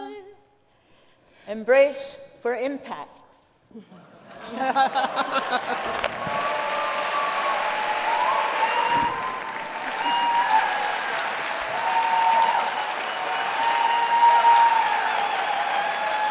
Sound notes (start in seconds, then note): 6.4 laughter; 9.1 applause